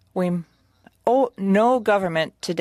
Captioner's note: speaking French